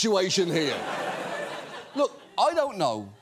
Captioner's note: audience laughs